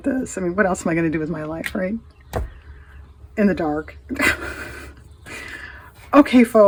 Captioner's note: laughs